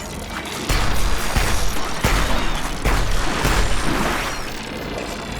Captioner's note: machine creaking; explosions blasting